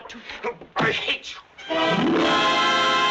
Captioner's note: candlestick thumping; suspenseful music